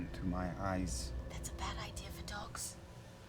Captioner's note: whispers